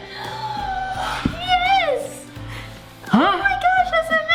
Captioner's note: gasps ecstatically